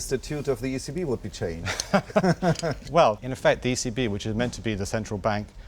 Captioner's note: laughs